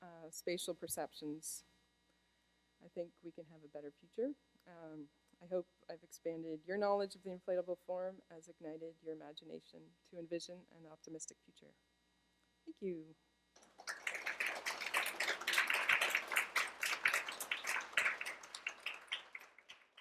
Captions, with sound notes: spatial perceptions I think we can have a better future. I hope I've expanded your knowledge of the inflatable form as ignited your imagination to envision an optimistic future. Thank you! [Applause]